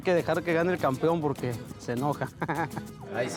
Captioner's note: ríe